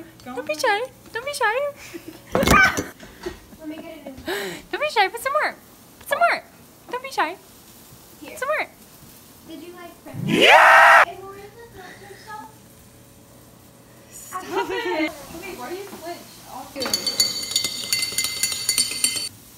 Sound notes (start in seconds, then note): 3.2 quiet laugh; 10.2 Call of Duty Zombie sound; 16.8 loud, echoing sounds of spoon against mug